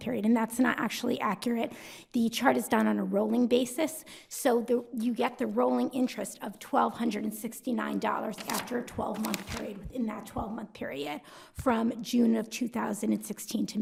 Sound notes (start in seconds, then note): 8.3 paper shuffling